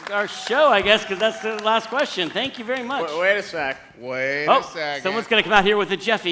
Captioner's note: applause